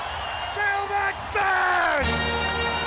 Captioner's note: crowd cheering